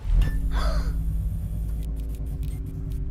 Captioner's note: gasp